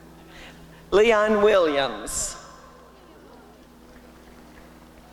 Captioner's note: applause and cheering